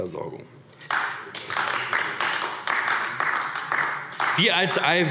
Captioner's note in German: Beifall AfD